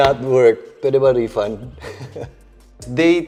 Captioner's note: giggles